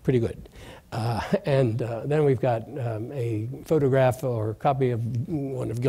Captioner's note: laughs